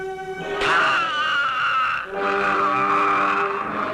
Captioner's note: groaning